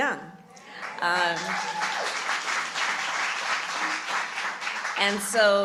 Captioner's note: applause